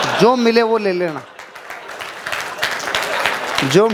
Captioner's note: rounds of applause